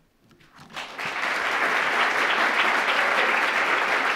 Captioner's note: applause